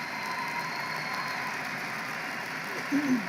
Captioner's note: applause